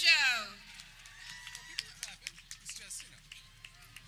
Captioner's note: people clapping